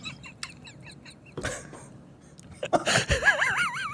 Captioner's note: uncontrollable giggles